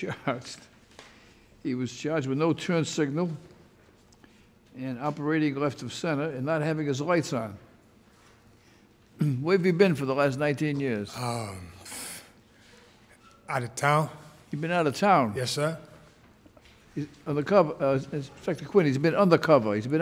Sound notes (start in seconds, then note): 11.3 stutters